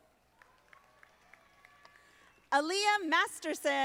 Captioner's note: audience applauding